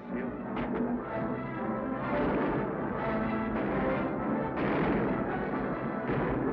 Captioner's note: guns bang; exciting music